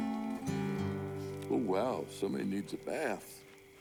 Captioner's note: sniffs